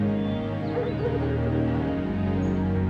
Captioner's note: dogs barking